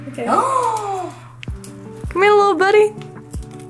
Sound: boy exclaims

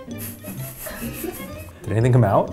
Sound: laughs

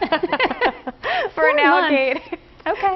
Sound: laughter

